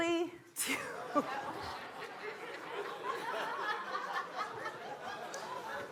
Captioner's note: laughter